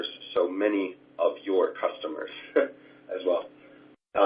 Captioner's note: laugh